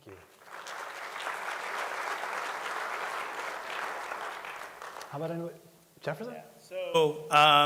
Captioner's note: applause